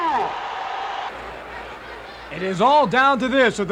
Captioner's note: audience cheers